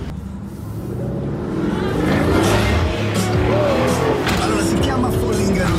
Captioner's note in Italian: Suono auto sportiva